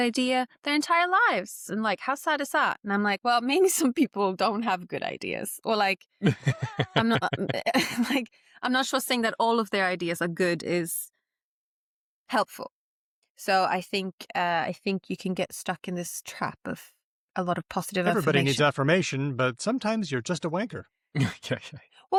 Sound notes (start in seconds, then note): 6.2 laughter